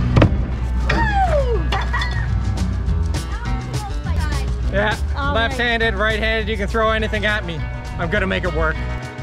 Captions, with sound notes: Woo! (laughing) - Yeah, left-handed, right-handed, you can throw anything at me, I'm gonna make it work.